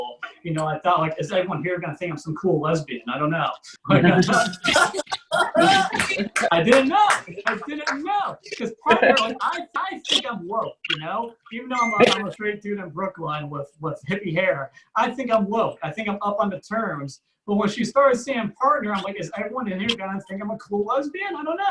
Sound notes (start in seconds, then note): 3.9 audience Laughs